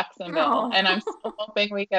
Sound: laughing

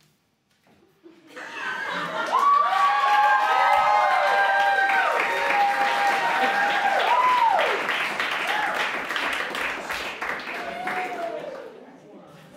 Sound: applause

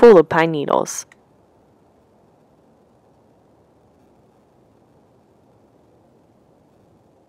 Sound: ambient forest noises

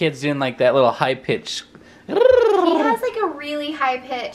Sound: makes cooing noise

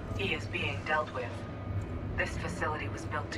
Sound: radio

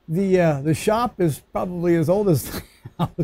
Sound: laughs

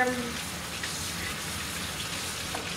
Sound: water splashing

